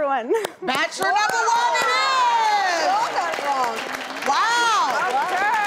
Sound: crowd clapping

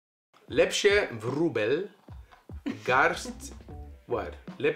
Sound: speaks Polish

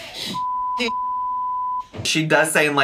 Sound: beep

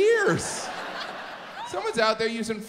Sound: audience laughs

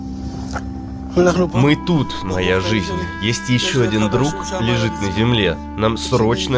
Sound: in Hebrew

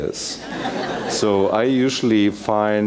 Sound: laugh

